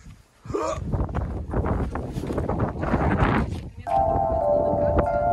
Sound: wind noise

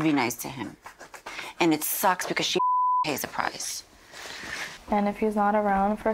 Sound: beep

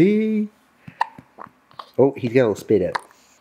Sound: baby hiccups

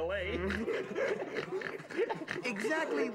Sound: snorting and laughing

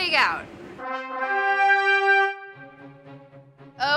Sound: horns blaring; upbeat classical music

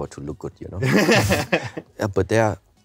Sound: both laugh

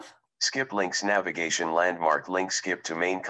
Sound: recorded voice

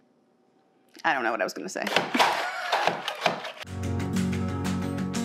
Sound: chuckles; gentle music

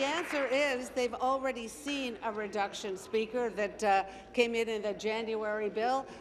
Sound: applause

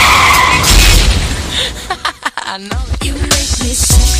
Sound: wheels screech; cars crash; laughs

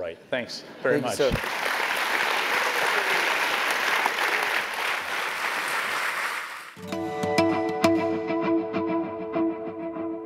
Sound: applause

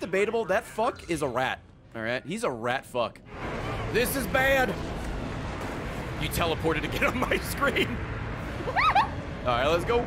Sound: laughs

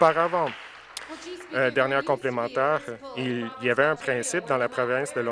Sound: applause

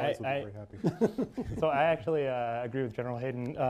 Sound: laughs

